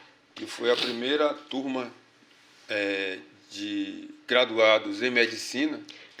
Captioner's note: speaking portuguese